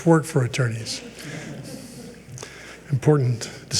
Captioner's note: people chuckle